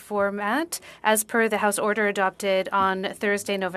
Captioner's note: speaking French